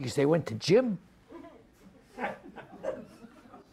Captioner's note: audience laughing